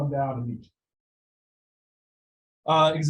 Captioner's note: audio drop